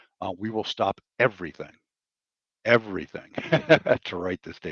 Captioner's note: laughs